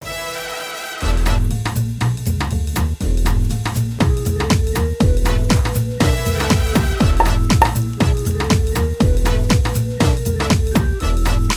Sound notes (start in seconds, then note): 0.9 swing music; 7.1 popping; 8.9 swing music